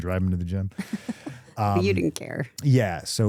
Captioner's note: chuckling